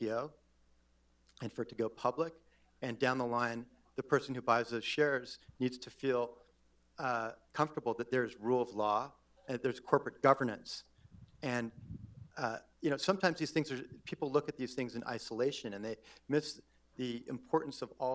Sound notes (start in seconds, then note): none